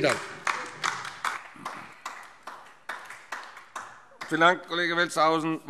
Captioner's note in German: Beifall DIE LINKE